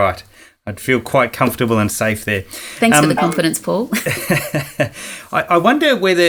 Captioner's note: laughing